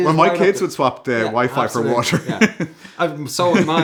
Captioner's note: laughs